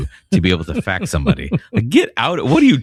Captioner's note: uh